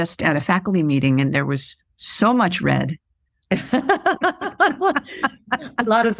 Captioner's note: laughter